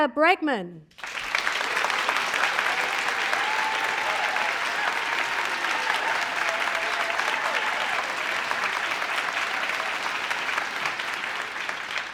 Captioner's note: applause